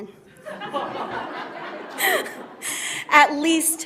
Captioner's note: audience laughs